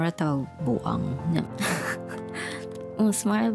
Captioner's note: laughing